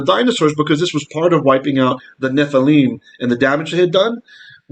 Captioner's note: Hebrew